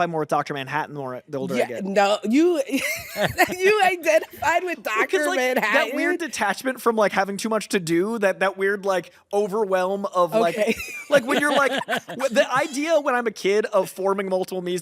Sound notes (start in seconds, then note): 2.8 laughs; 10.4 laughs